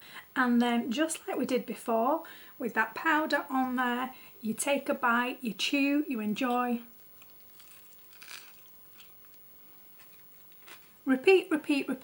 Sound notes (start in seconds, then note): 6.9 crunching,chewing, eating sounds